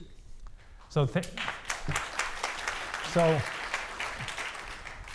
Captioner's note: audience applauding